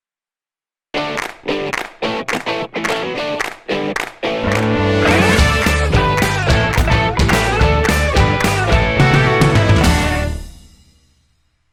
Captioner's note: claps